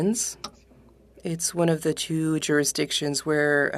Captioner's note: speaking French